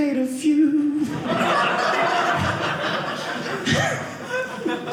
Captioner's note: audience laughing